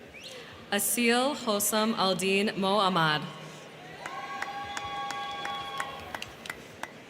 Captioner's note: crowd cheering